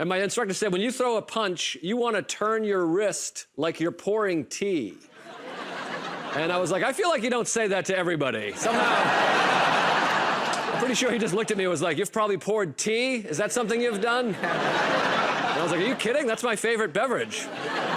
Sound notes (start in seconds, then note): 5.1 laughter; 8.5 laughter; 13.6 laughter